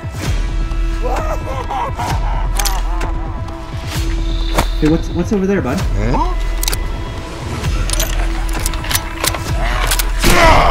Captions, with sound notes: *Evil Boss Laughing* Hey, what's over there, Budd?